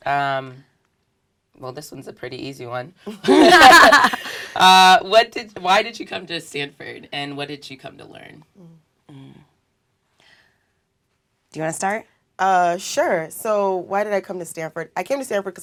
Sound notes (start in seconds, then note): 3.1 laugh